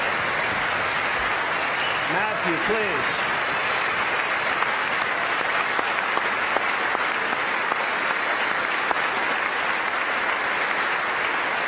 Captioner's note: applause